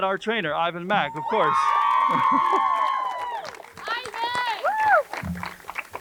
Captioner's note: crowd cheers and applauds